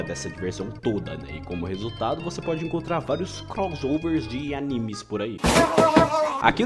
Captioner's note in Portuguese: gente estranha gritando